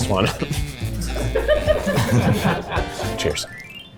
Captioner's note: crew laughing